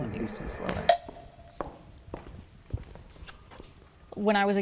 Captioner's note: feet stomping